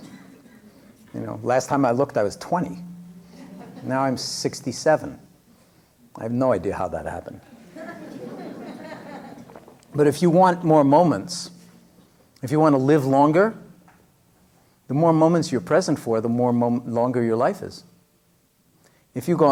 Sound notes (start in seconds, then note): 0.0 laughter; 7.5 laughter